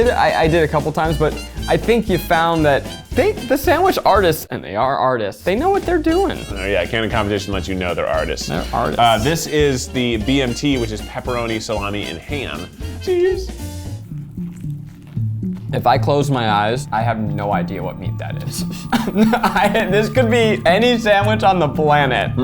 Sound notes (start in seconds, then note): 14.0 sandwiches crunching; 14.6 light music